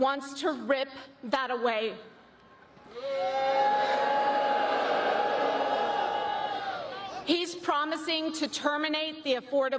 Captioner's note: applause